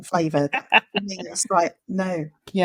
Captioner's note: laughing